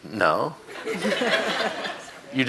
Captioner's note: audience laughing